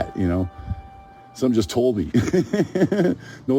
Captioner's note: laughs